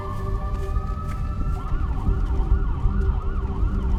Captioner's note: sirens wailing